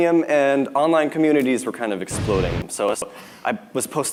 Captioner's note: explosion sound